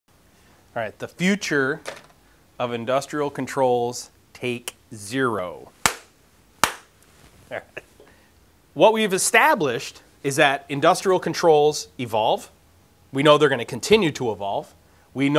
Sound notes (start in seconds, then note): 6.6 claps hands